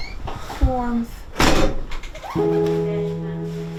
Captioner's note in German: Türklopfen; coole Musik